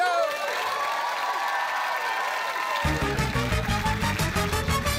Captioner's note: cheering, applause